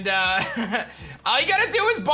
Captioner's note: chuckles